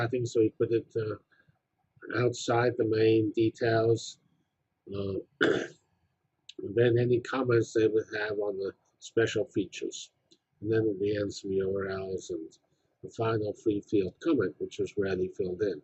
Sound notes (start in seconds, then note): 5.4 cough